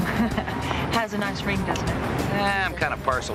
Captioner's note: chuckling